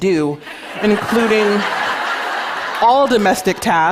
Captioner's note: laughter